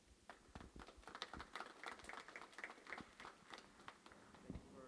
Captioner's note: applause